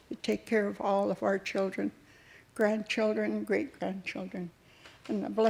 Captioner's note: none